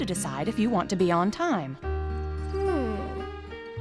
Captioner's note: sighing